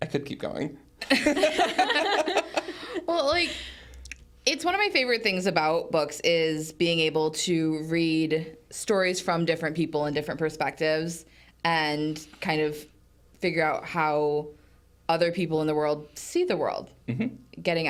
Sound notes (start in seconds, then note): 1.0 hosts laughing